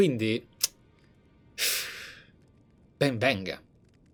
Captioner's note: sigh